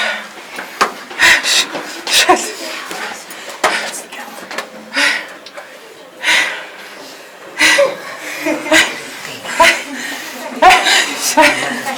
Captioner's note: heavy breathing x infinity